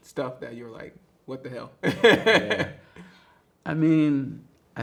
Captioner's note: laughs